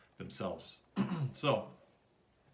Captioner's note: coughs